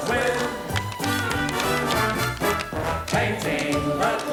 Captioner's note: tap shoes click